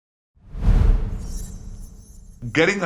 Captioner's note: graphic whooshing